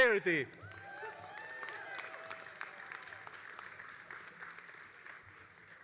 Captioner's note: all applauding and cheering